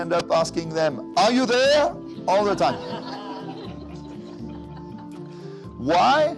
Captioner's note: laughter